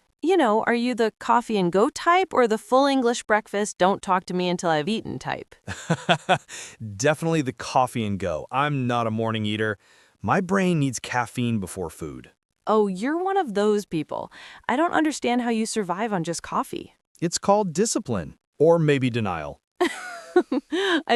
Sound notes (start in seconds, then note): 5.6 laughing; 19.8 laughs